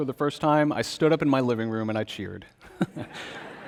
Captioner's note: congregation laughs; laughs